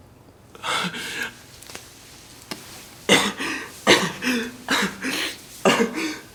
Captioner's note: sobbing